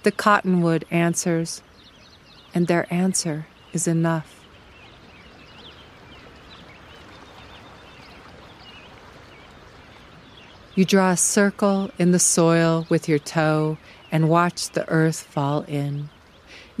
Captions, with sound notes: The cottonwood answers. And their answer is enough [babbling water, endless chirps of birds]. You draw a circle with your toe and watch the earth fall in.